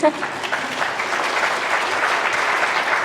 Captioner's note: applause